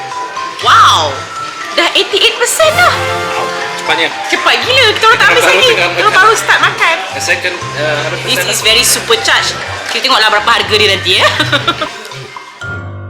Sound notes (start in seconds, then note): 11.0 laugh; 12.2 background music